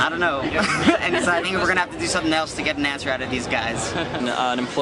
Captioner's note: laughs